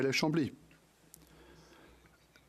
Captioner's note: speaking French